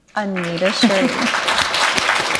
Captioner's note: applause